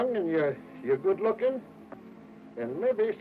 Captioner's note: none